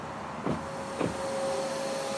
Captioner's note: vacuum whirring